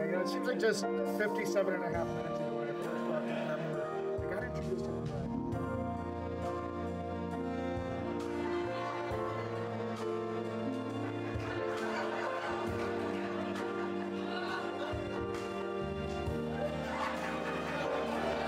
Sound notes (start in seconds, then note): 4.8 audience laughs